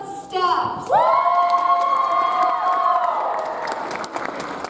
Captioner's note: audience applauds